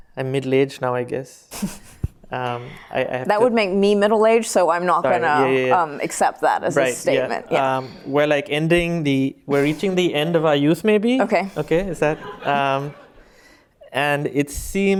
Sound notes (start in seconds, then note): 12.0 laughter